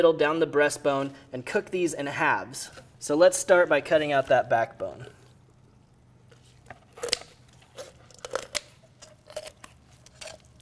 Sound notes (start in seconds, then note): 6.3 snipping and crunching